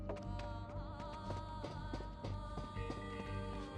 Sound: none

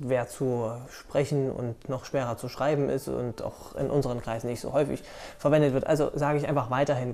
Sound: German

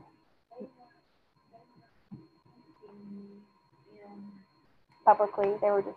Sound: student speaking faintly

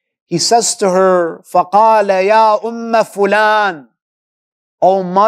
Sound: Arabic

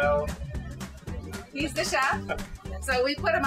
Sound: laughing

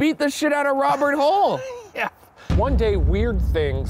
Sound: laughs

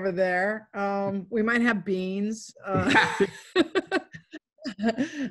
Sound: laughs

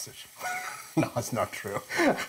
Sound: chuckles

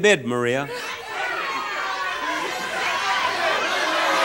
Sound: audience shouts

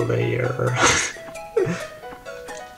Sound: laughs

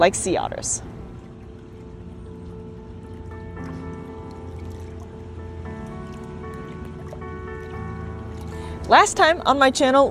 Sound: background music; gentle water splashing noises

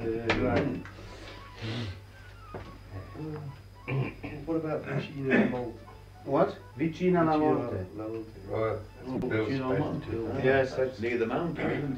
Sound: italian, Indecipherable

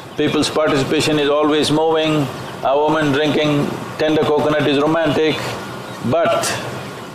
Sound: few laugh

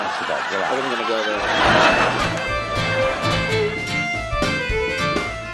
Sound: audience laughs

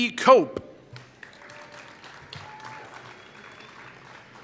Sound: applause

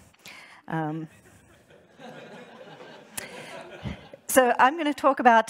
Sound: audience laughing

